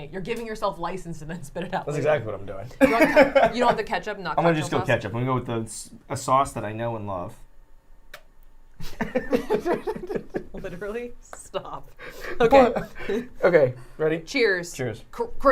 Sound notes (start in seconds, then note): 8.3 ketchup squelching